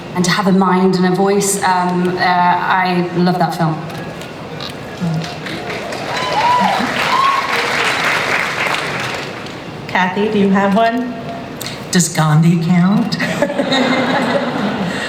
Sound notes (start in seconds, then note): 5.0 audience cheering and applause; 13.2 laughter